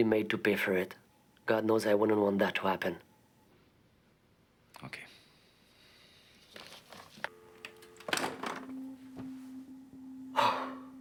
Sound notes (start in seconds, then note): 7.3 dial tone buzzing; 8.6 soft tense music; 10.3 Rene sighs